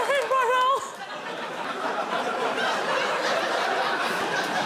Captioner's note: laughs